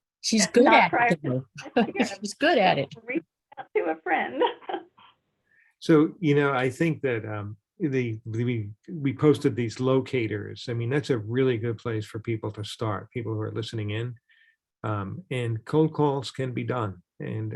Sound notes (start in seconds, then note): 0.0 laughs; 4.4 laughs